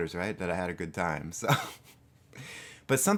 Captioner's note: chuckles and adjusts snazzy cap